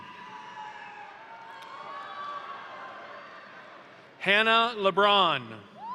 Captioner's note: crowd cheering; crowd applauding